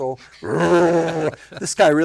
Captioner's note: imitates engine revving